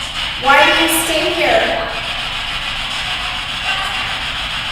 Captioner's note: static buzzing